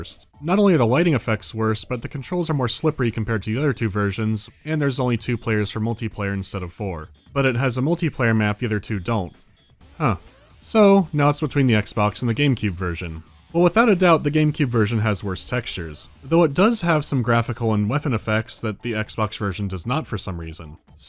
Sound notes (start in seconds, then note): none